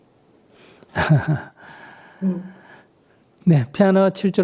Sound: Sunim laughs

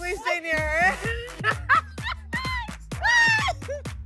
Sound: laughter

